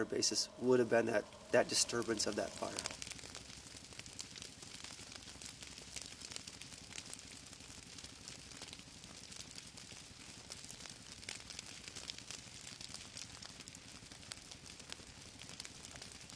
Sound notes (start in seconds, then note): 3.0 fire crackling